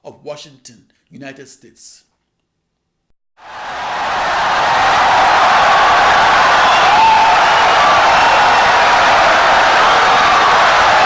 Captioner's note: wild applause and cheering for 17 seconds